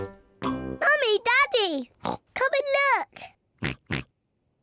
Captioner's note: snorts